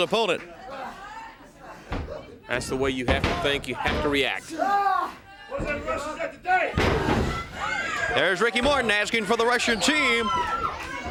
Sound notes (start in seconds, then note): 7.1 crowd cheering